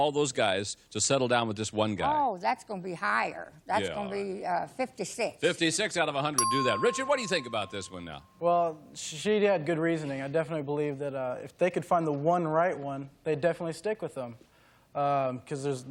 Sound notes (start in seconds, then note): none